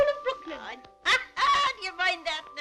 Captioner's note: laughing